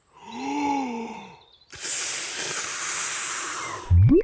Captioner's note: takes big breath and blows